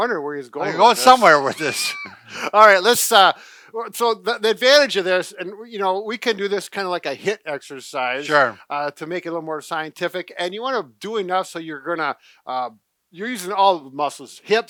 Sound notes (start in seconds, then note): 0.7 chuckles